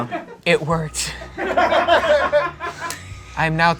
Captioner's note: audience laughing